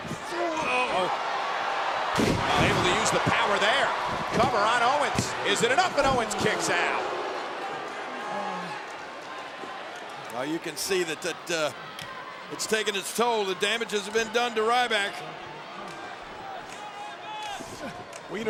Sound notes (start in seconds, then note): 2.1 body thudding; 7.0 audience chattering; 15.3 audience chattering